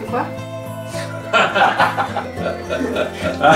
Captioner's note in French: rires